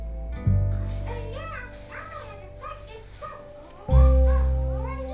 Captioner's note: Elmo gibbers